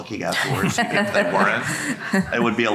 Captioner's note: group laughing